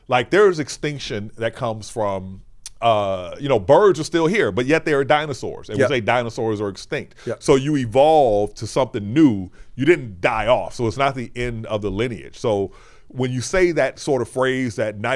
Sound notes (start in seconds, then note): none